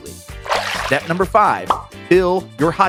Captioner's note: water splashes